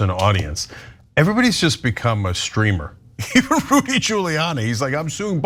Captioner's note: laugh